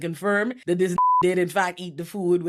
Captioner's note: beep